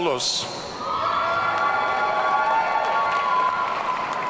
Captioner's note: audience cheering